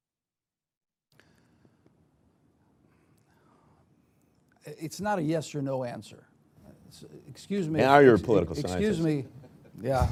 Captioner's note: laughs